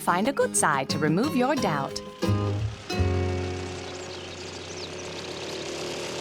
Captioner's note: lawnmower whirring